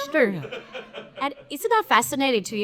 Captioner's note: attendees laughing